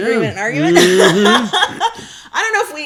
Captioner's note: laughs